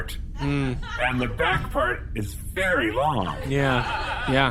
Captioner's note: audience laughter